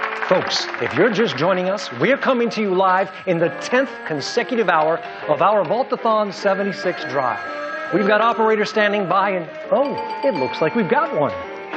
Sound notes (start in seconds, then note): 6.7 phones ringing